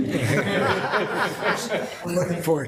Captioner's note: all laughing